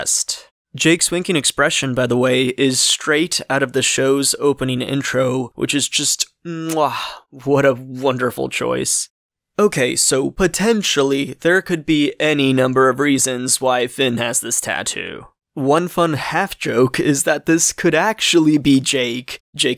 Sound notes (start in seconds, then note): 6.6 chef’s kiss